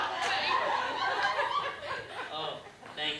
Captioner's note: laughter